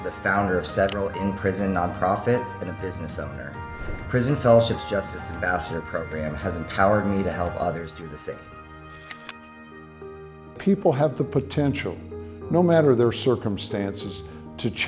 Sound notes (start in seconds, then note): 9.0 logo clicks; 9.0 gentle music